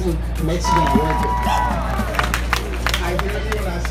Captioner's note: cheers and applause